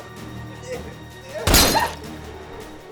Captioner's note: gun fires